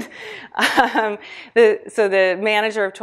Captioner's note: laughs